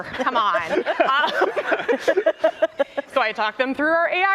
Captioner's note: laughter